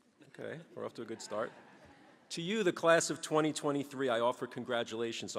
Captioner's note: chuckles